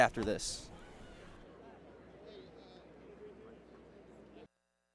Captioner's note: chatter